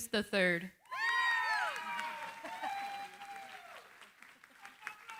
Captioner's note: cheering, applause